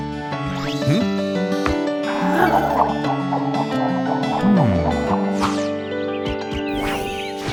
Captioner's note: tranquil music continues; tail wagging